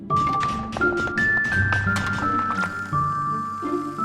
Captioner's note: clanging